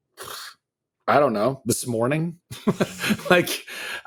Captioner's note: laughing